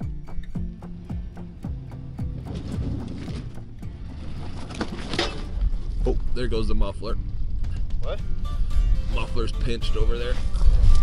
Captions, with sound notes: (truck revving) - Oh, there goes the muffler. - What - Muffler's pinched over there